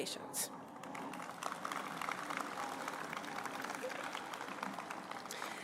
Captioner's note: applause